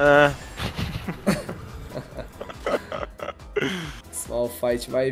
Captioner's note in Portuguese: risos